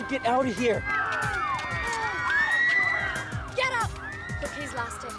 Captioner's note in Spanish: gente gritando